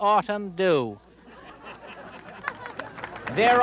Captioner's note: audience laughing